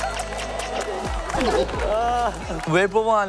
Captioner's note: gasping